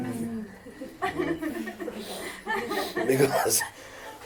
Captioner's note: laughter